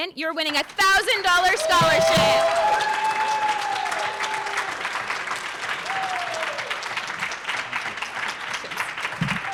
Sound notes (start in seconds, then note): 1.1 audience cheers; 2.3 audience applauds